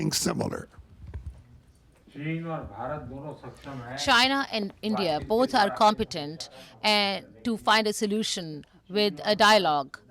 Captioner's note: through translator